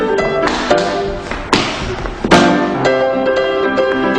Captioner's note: feet stomping; upbeat jazz music